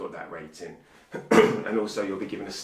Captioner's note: coughing